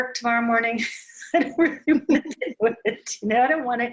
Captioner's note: laughs